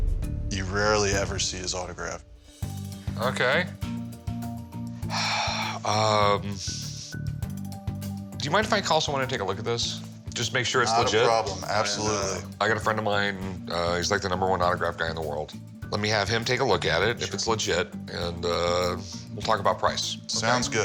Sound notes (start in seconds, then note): 4.9 exhales sharply